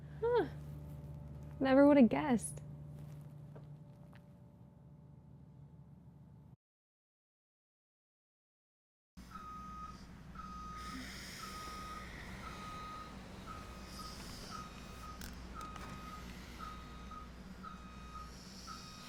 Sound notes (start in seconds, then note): 9.5 truck beeps; 10.8 Fern sighs